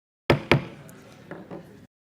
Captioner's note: bangs gavel